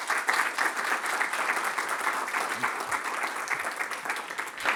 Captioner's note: applause